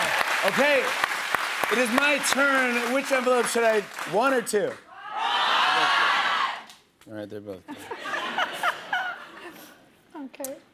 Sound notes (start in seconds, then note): 0.0 cheers and applause; 4.7 audience shouting "one"; 7.6 laughter